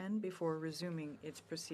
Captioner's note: speaking in French